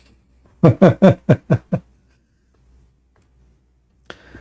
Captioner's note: Ketawa